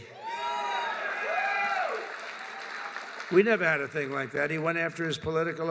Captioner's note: applause